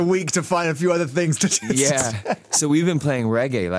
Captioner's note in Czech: smích